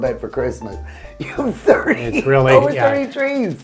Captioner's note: laughing